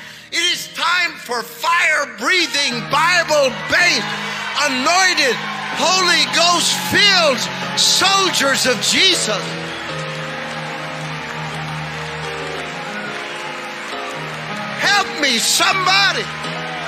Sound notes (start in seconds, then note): 9.5 congregation cheering; 11.2 gentle piano music